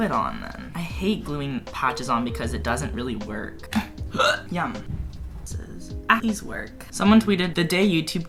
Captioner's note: bUrp